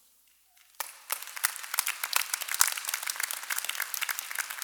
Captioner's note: applause